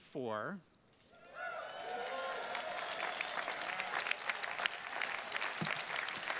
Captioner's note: attendees cheers and claps